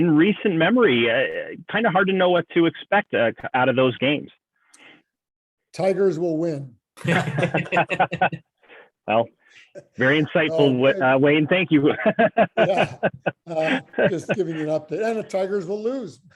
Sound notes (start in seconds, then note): 7.0 laughter